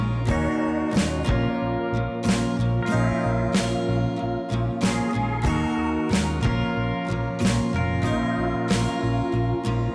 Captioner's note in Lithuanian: Plojimai